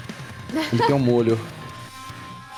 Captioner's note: laughs